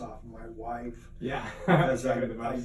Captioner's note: laughter